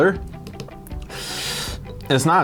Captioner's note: sniffs